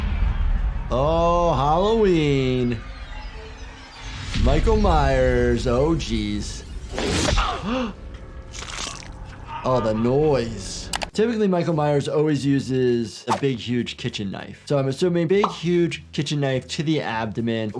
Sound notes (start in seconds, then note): 7.0 gasping; 8.4 squelching